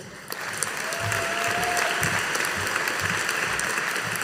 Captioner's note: audience applauding